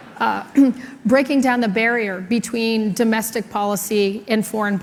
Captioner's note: laughter